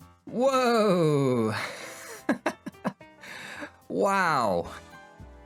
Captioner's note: laughs